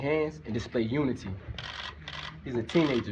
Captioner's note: camera shutters clicking